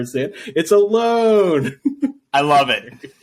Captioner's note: laughs